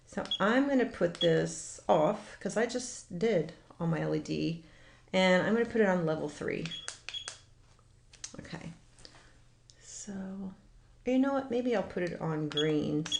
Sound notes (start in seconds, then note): 6.7 beep